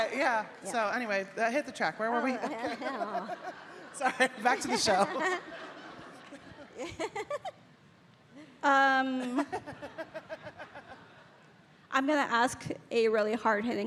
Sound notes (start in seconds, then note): 6.4 Amy laughing